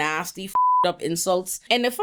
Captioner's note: beep